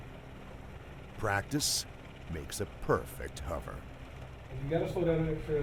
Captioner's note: voiceover